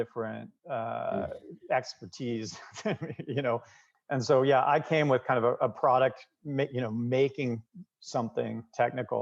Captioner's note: laughter